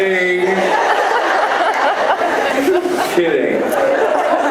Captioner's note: laughs